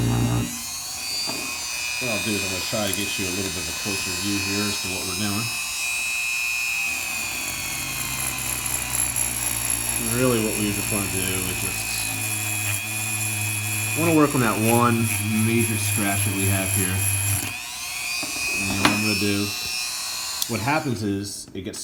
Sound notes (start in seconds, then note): 0.1 dremel sounds; 9.7 polishing crystal